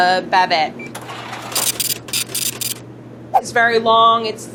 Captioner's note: scale beeps and brrhs